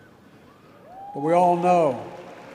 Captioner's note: applause